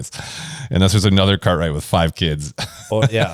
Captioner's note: laughs